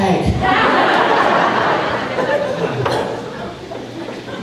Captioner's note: crowd laughing